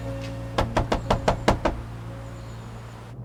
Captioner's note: gentle music plays out; knuckle rapping